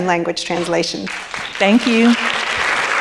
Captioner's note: audience clapping